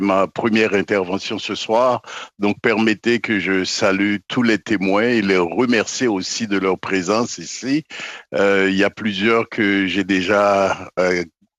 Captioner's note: speaking French